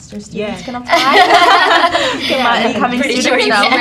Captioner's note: all laughs